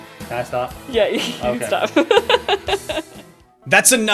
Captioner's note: chuckles off-screen; laughing; chuckles off-screen